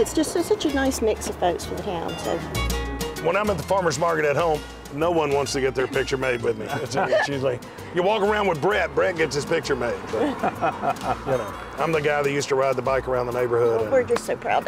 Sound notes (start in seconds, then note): 6.7 laughs; 10.1 laughter